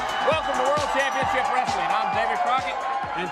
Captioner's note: crowd cheering